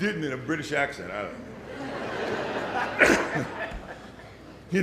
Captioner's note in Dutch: Gelach